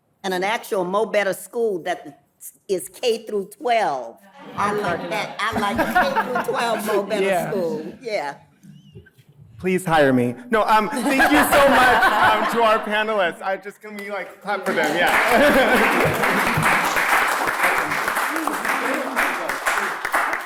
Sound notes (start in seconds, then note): 4.4 audience laughing; 14.7 laughing; 16.2 audience applauding